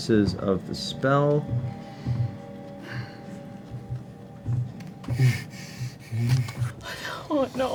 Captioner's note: heavy breathing